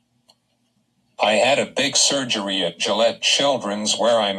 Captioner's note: voiceover